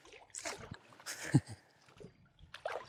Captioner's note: laughing